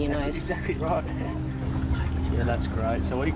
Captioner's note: chuckles